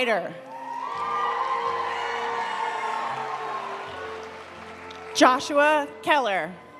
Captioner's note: audience cheering; audience applauding